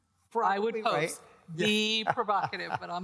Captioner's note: laughs